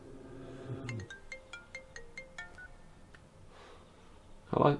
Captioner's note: phone ringing